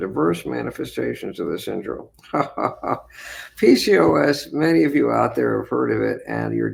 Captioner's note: laughs